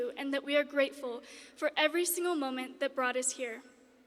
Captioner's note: none